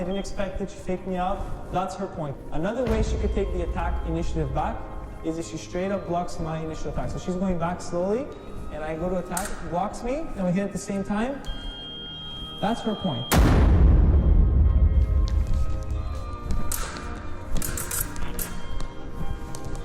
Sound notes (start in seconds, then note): 13.3 loud booming; 17.0 foils clashing